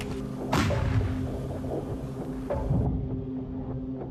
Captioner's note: blast booms